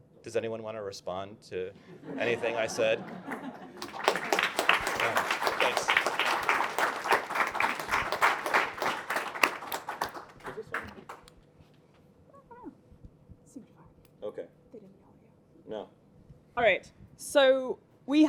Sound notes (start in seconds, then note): 1.8 laughter; 3.8 applause